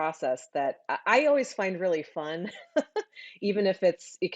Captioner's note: laughs